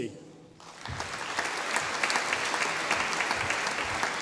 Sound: audience applauding

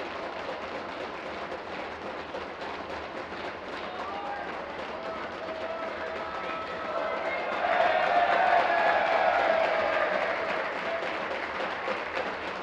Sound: tapping of desks

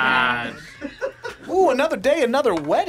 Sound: React laughs

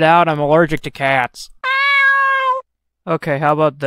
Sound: meow

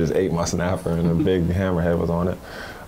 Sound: laughs

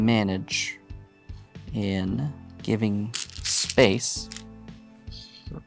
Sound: stones rattling

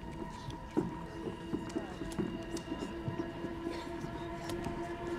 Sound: footsteps plod

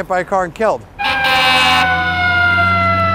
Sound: fire truck horn blasts, sirens blare

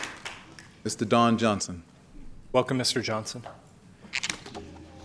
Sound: applause

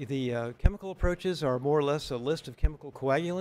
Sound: none

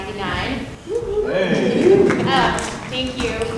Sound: audience cheering

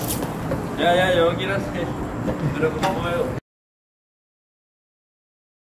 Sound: man speaks in foreign language

